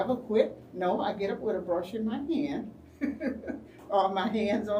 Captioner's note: laughs